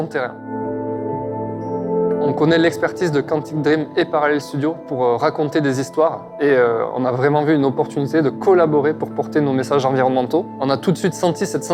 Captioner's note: speaking French